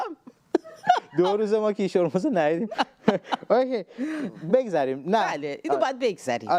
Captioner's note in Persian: خنده; خنده